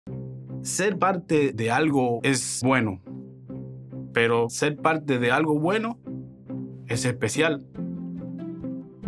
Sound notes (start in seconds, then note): 0.0 speaking Spanish; 0.1 gentle music